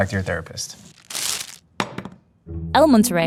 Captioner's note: wrapper ripping; burrito thumping